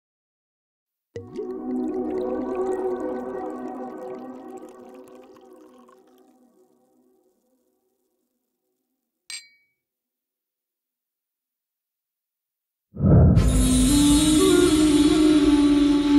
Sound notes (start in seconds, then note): 0.0 downbeat music; 1.1 liquid pouring; 9.3 glasses clinking; 11.9 mysterious instrumental music